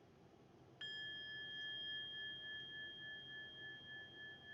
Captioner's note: bell chiming